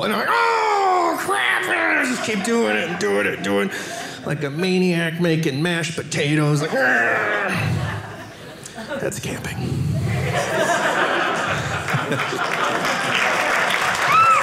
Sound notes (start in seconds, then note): 6.6 audience laughing; 11.1 audience applauding